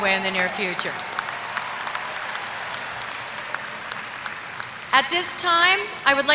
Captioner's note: applause